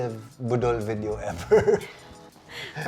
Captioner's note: chuckles